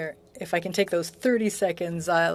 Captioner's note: speaking French